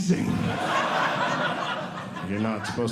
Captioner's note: audience Laughing